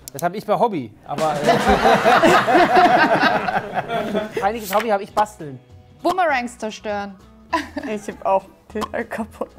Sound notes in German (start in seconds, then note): 1.2 Lachen, Tusch